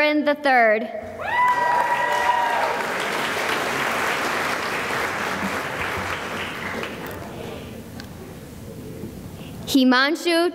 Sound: cheering and applause

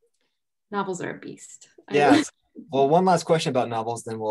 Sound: chuckles

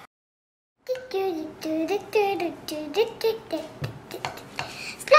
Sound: humming

